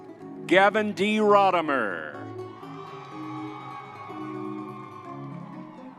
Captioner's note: crowd cheering